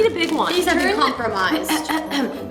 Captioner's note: clears throat